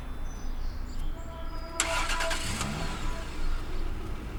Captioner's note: engine turns over